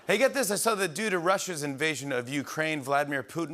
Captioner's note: none